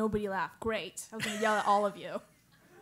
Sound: laugh

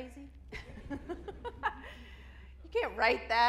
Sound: laughs; audience laughs

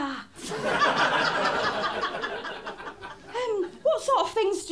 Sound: laughter

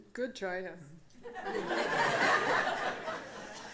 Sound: laughter

